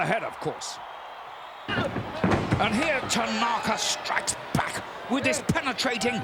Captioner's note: applause